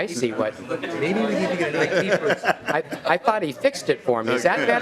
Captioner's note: laughing